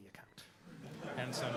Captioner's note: laughter